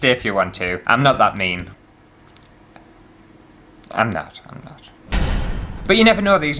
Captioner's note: impact